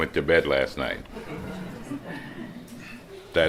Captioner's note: slight laughter